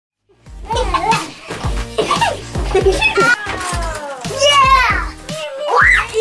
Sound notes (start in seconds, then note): 0.4 kids laughing